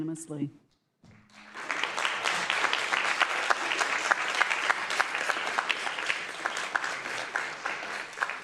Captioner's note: scattered applause